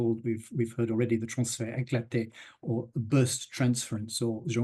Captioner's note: speaks in French